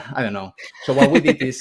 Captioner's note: laughter